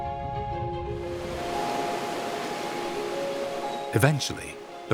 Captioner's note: water sloshes